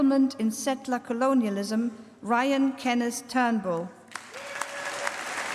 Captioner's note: applause